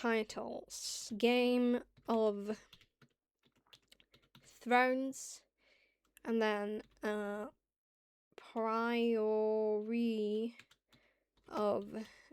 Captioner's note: sounds out typing